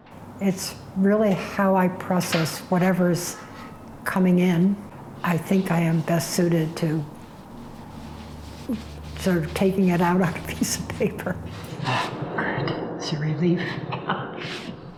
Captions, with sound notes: -It's really how I process whatever's coming in. I think I am best suited to sort of taking it out on a piece of paper. Ah, good. That's a relief. [ Chuckles ]